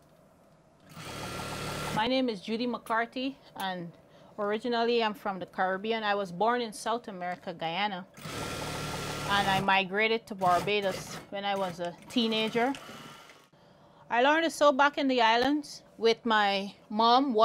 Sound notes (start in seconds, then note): 0.8 sewing machine hums